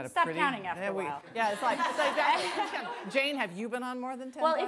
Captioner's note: laughing